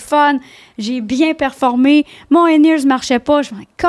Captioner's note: in french